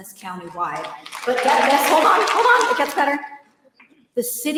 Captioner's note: applause